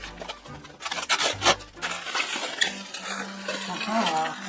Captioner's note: squeaking noise from tape and bubble wrap